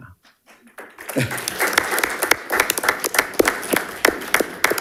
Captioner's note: audience applauding